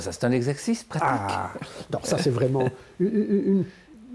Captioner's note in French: rire